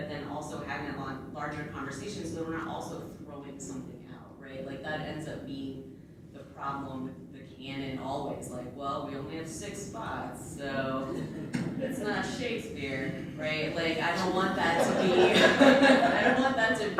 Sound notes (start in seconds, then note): 14.7 laughter